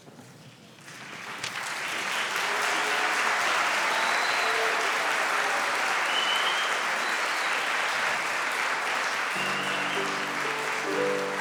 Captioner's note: applause